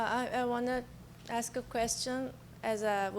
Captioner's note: voiceover